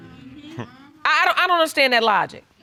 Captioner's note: audience agreeing